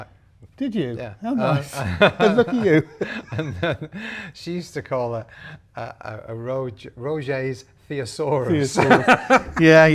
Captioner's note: laughing